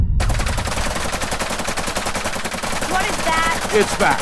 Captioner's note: bullets whizzing